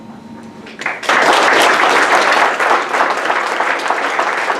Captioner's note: audience applause